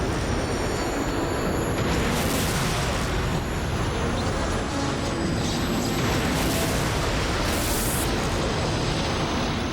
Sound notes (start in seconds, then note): 1.9 gunshot